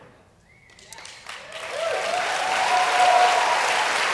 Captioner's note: applause